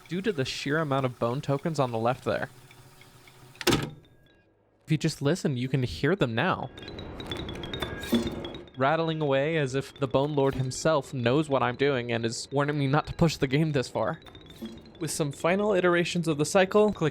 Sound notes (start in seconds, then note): 3.3 cassette stop noise; 6.7 skeletal vibraphone noises